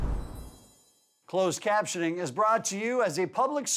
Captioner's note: voiceover